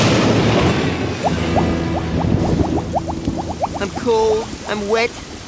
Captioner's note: thunder crashing